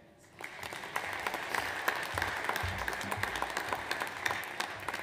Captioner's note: audience applauds